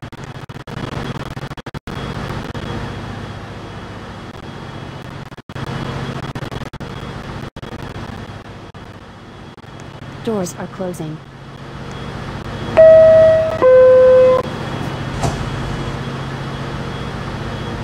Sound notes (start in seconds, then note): 12.8 door closing chime plays